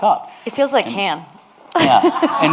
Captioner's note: laughs